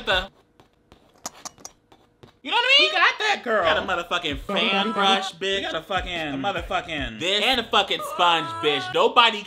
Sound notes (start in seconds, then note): 1.2 paint scraper clanking